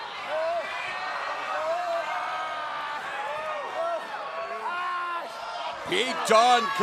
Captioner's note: crowd chatter